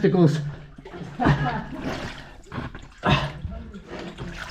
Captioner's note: laughing